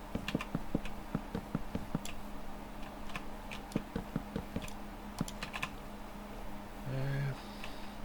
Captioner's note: typing